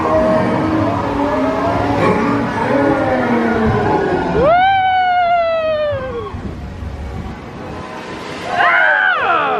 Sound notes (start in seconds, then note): 2.3 creature groans; 5.0 guests exclaim